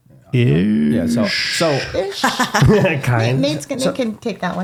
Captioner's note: laughing